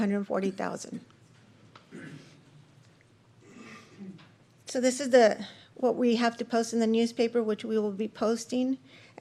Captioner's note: clears throat; snorts